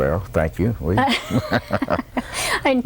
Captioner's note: laughter